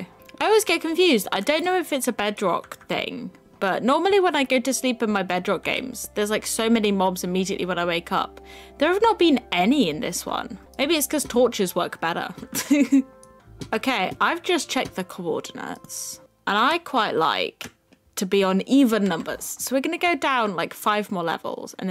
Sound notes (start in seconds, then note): 12.5 laugh